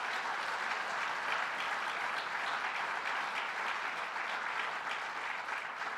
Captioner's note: applause